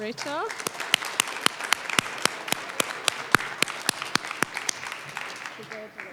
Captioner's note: applause